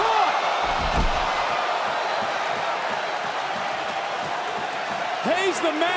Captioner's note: crowd cheering